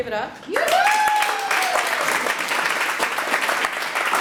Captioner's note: audience applauds